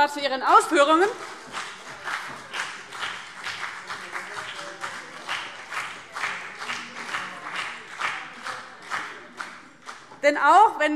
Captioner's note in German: Heiterkeit und Beifall CDU und BÜNDNIS 90/DIE GRÜNEN